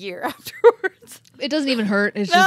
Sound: chuckles

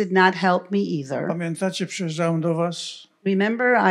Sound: foreign language

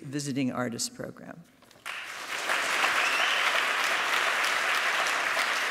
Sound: applause

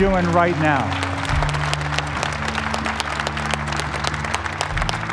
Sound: applause

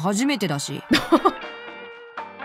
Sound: chuckles

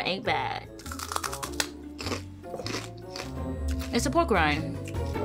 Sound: chicharron crunching

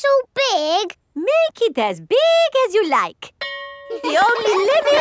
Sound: school bell rings; children laughing

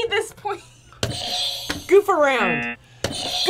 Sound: buzzer rings

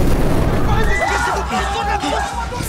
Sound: cris de panique

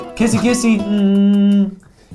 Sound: kissy noises

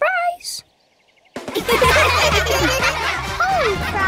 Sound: laughing

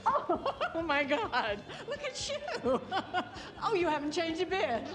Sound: laughing

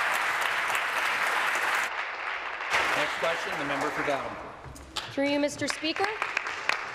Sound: applause

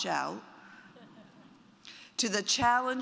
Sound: audience laughs

